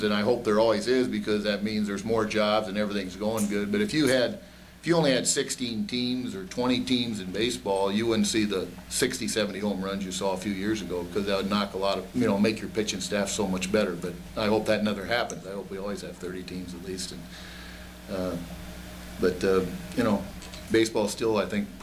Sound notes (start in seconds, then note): none